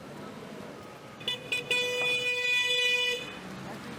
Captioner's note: horn honking